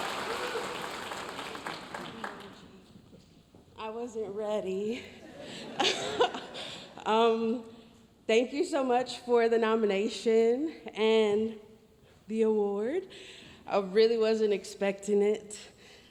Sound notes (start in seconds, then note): 0.0 audience cheering and applauding; 0.0 audience applauding; 5.3 audience laughs; 5.7 chuckles